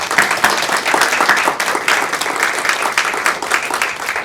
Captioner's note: audience applauding